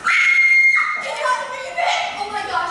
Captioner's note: screaming